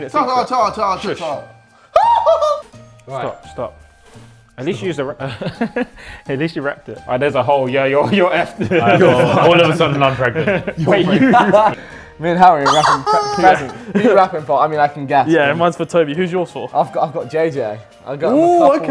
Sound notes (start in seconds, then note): 1.9 JJ screaming; 5.4 laughs; 12.6 laughs